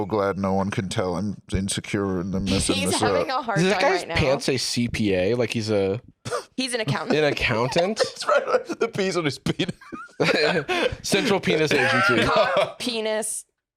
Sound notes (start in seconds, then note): 6.8 laughing; 9.4 laughs